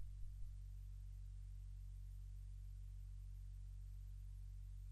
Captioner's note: none